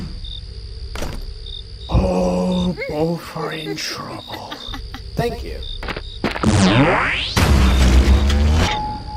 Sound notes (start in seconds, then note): 3.6 evil giggles